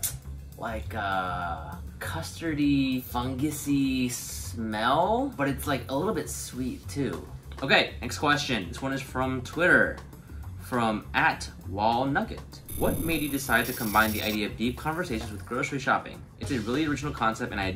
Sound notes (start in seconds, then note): none